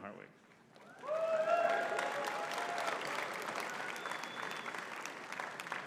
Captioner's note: audience cheering and clapping